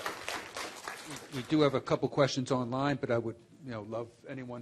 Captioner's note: applause